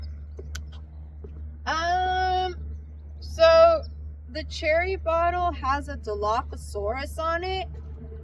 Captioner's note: sucks teeth